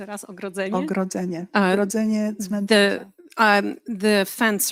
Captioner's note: speaking polish